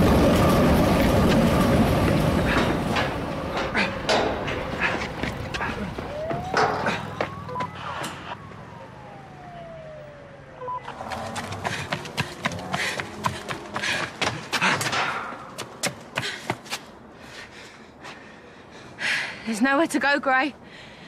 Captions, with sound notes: (Police sirens) There's nowhere to go, Gray.